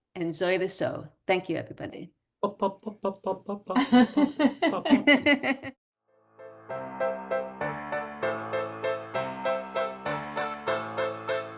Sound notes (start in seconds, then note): 3.7 chuckles